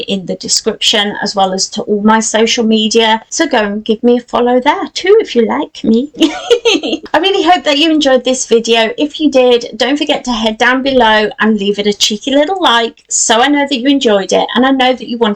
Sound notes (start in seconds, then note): 6.2 laughs